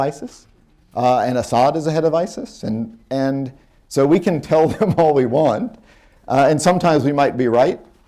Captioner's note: laughs